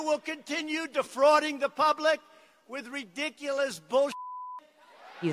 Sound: beep

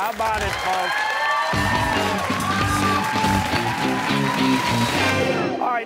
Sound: cheers and applause

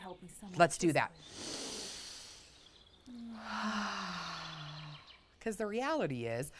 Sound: both inhaling and exhaling

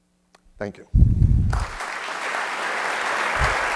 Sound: applause

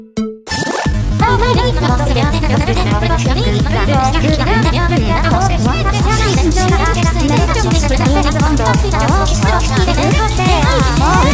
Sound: arguing

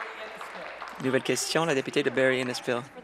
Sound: applause

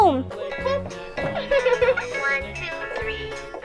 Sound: giggles

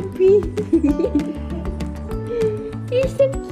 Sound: person laughing

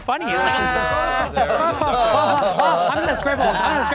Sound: laughing

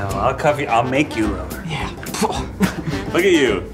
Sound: grunts

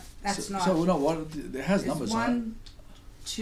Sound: voiceover

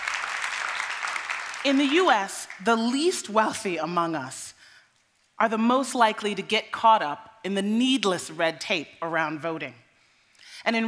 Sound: applause

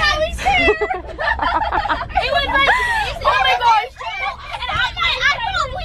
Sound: girls laughing

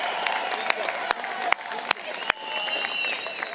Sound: applause, Cheering

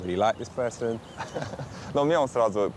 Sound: laughing; speaking in foreign language

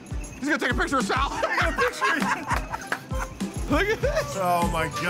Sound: laughs

